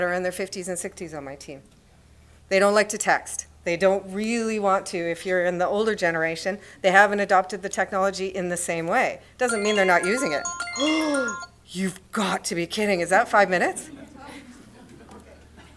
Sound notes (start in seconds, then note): 9.4 alarm rings